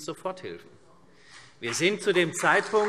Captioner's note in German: Beifall CDU und BÜNDNIS 90/DIE GRÜNEN